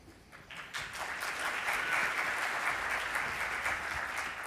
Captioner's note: audience applauds